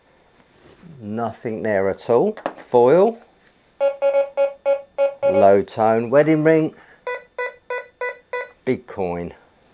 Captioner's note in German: leiser Ton